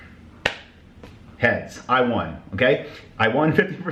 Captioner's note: hand smacking